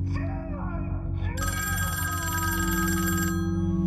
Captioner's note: phone ringing